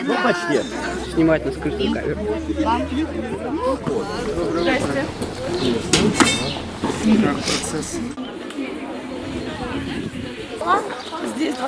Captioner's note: indistinct chatter